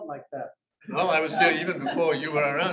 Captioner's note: audience laughs